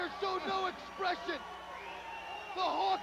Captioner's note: crowd cheering